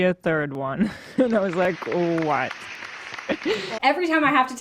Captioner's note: audience clapping